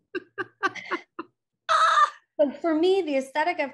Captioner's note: chuckles